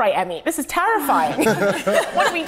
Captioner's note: everyone laughs